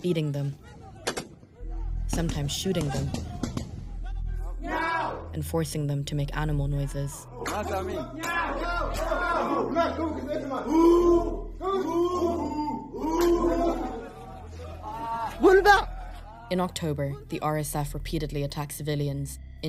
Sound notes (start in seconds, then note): 3.1 gunshots